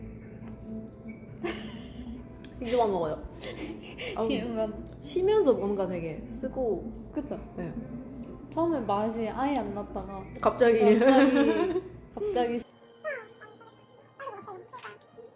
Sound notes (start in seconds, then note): 3.4 laughs